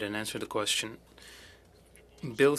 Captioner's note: speaking french